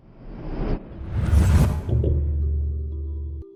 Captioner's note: whooshing air